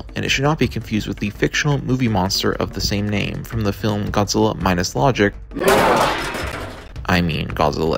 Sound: Godzilla's copyright-free roar

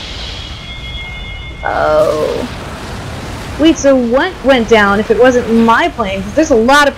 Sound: underwater

